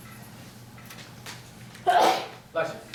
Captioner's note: sneezes